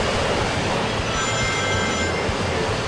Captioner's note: jets whirring; emblems chiming; jets whirring